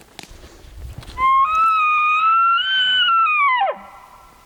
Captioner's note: caller bugling